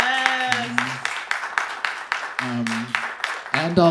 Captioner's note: audience clapping